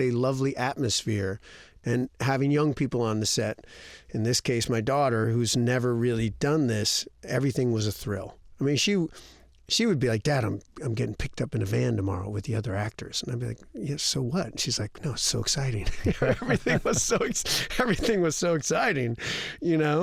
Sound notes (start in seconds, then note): 15.8 laughter